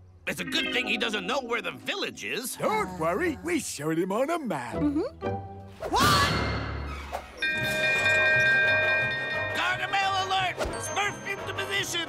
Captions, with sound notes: It's a good thing he doesn't know where the village is. Don't worry. We showed him on a map. What?! [ringing] Gargamel alert! Smurf into position!